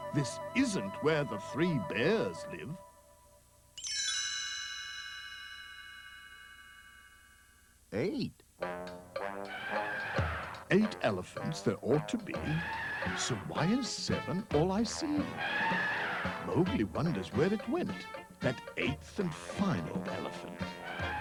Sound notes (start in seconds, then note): 9.2 trumpeting